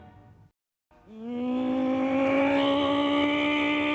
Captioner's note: mimicking car engine